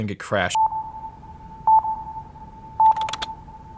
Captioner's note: countdown tone